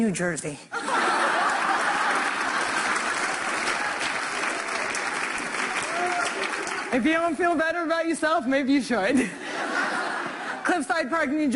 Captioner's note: laughter; applause